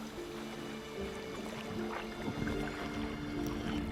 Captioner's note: water sloshing